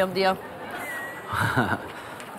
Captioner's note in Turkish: Gülme efekti